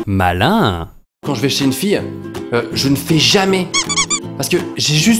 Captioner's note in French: pouet pouet